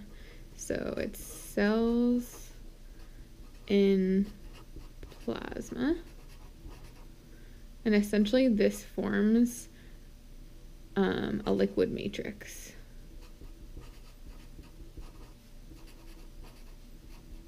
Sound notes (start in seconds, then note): 13.8 marker tapping